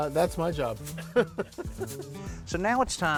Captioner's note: both laugh